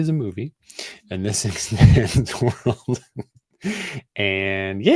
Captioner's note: laughs